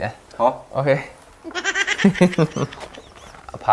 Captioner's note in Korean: 히히히